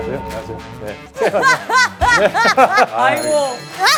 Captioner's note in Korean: 시작부터 찐텐 웃음 폭발